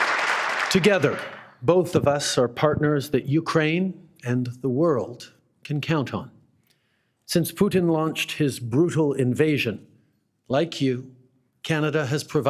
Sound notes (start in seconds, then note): 2.6 applause